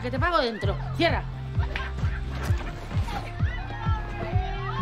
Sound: laughter and shouts of joy

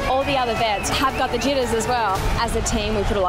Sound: crowd cheering and whistling

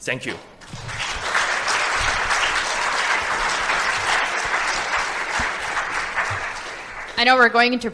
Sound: applause

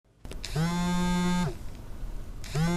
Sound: phone Vibrating

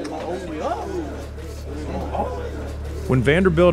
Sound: coughs

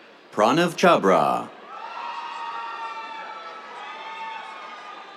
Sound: cheers

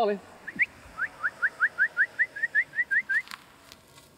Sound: whistling

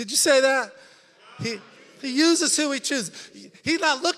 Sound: congregation chattering

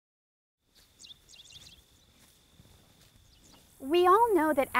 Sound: birds chirping

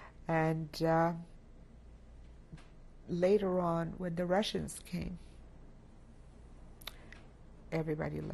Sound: pauses for 3 seconds

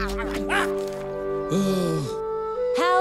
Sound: sigh

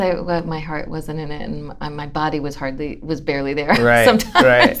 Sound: laughter

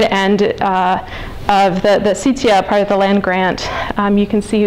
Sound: non-english

